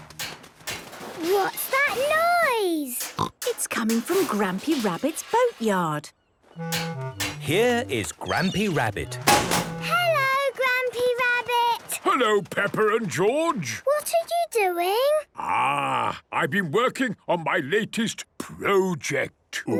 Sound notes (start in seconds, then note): 0.0 distant banging, crashes; 9.0 chrashing